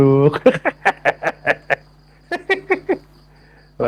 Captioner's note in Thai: เสียงหัวเราะ